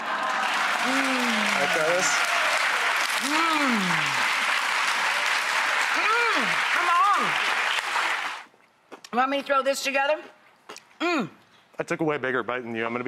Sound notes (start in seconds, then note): 0.2 audience applauding; 3.3 audience applauding